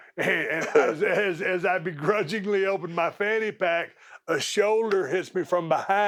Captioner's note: laugh